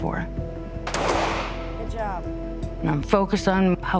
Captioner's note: fires